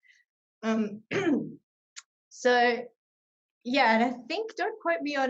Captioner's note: clears throat